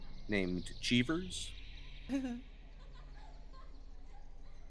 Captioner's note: Cornette laughs